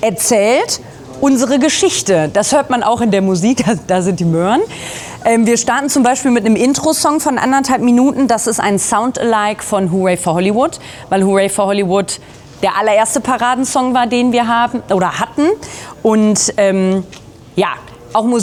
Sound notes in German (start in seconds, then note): none